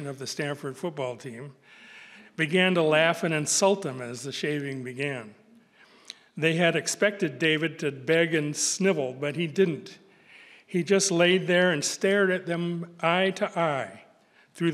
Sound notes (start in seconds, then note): none